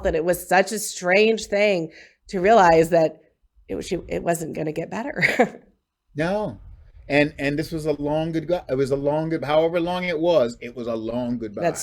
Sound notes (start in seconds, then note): 5.2 chuckles